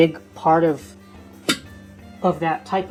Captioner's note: thump